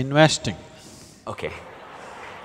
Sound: laughter

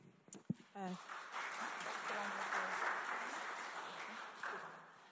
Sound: audience clapping

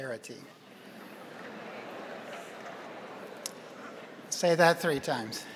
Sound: crowd laughing

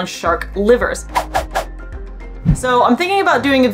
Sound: background music; sound effects

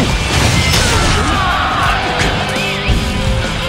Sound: KO Scream

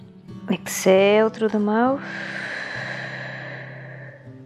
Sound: exhales

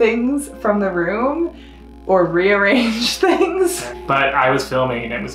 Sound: laughs

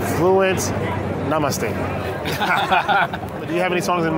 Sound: laughs

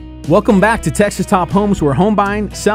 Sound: relaxing country music; voiceover

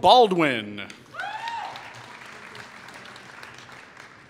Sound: applause

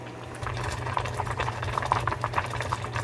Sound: bubbling

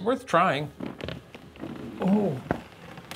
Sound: wood creaking

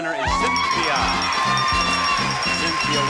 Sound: audience applauds; bell ringing

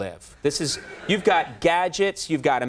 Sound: laughter

